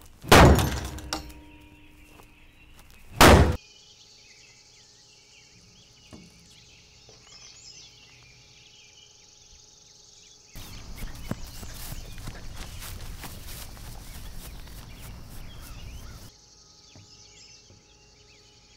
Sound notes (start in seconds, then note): 0.2 bangs; 3.1 bangs; 4.0 birds chirp